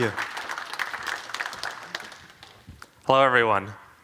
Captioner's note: applause